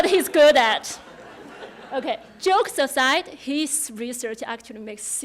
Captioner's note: laughter